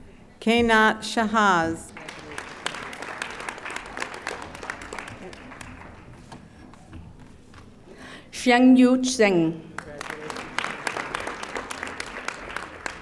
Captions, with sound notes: Canot Jahase. (audience applauding) - Chengyu Xing. (audience applauding)